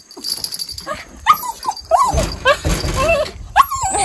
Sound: whining

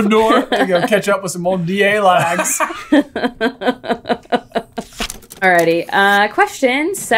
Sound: laughing

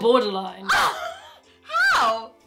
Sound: shocked exclamation

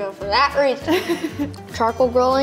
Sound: woman giggling

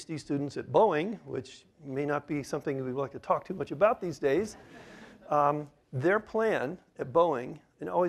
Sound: laughter

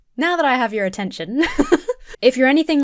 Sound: laughing

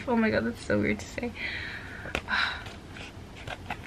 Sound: sigh

